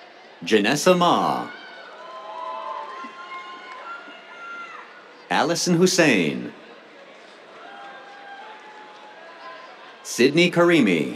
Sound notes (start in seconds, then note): 1.8 cheers; 6.7 cheers, applause